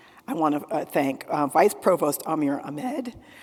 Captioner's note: none